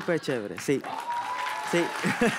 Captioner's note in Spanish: Ovación